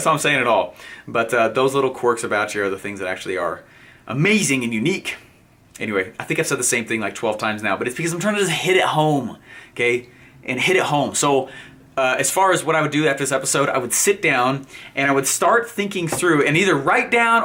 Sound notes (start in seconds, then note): none